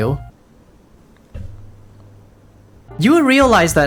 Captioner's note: bonk